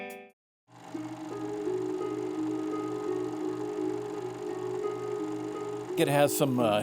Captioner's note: film reel whirring